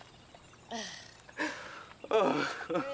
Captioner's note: laughing